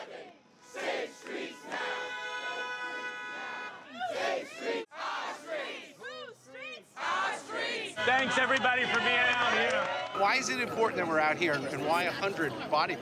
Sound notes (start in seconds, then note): 0.7 horns honking; 3.7 chanting